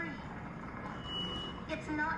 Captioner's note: creak